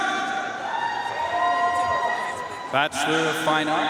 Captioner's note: audience cheering and applauding